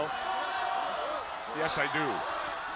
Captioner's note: crowd chatter